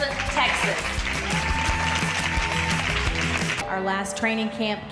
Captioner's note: audience cheering